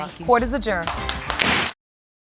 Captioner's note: raps hammer